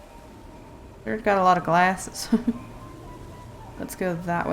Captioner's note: laughs